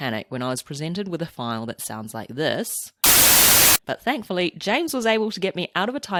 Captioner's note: white noise